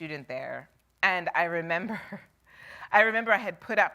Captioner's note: chuckles